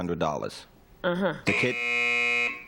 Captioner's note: buzz